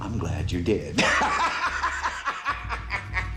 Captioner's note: cackling